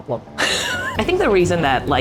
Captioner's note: wheezing